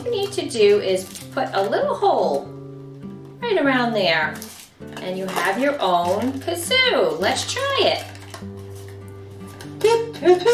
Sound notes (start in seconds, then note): none